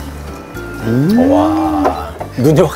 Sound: exclaiming

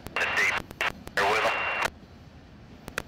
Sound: radio chatter

